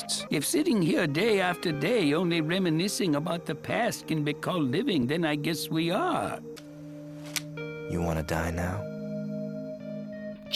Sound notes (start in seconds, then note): 7.2 gun cocks